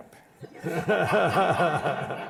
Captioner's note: laughter